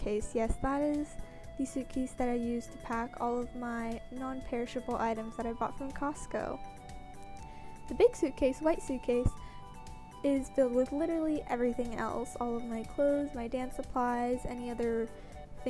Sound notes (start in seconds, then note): none